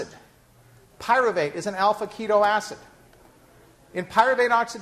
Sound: none

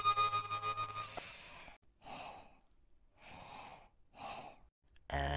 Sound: heavy panting

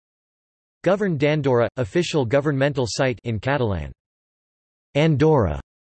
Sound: in Catalan

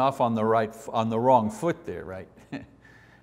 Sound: laughs

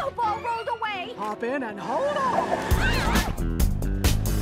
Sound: all yelling

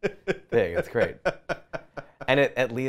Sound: laughs

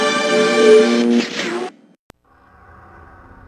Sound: mechanical sounds; dramatic sounds

